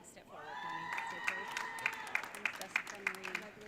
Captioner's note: audience cheering